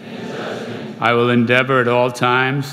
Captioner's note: crowd